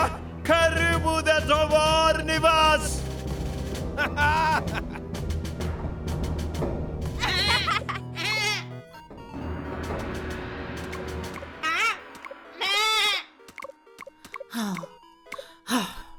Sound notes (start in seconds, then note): 0.1 in foreign language; 7.2 panicked bleating; 11.0 panicked bleating; 15.4 sighing